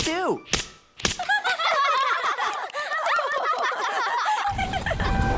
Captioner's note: laughing